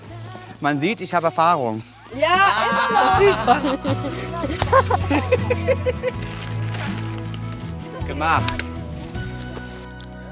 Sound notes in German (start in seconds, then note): 3.5 Lachen, entspannte Musik